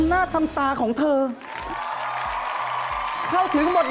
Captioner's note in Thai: เสียงปรบมือ